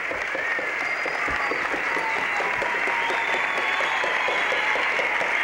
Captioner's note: applause